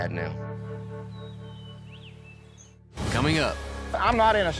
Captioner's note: birds chirping